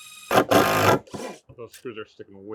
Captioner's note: machine drilling